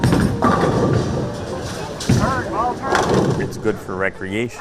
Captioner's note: bowling pins clanging